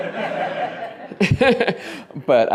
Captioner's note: laughter